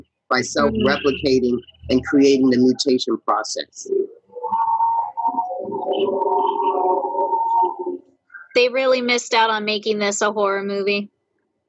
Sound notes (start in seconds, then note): 4.6 distorted noises playing